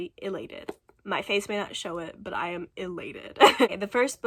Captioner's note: laughs